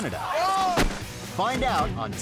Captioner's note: man yelling; man thudding